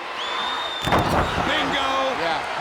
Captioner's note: body slams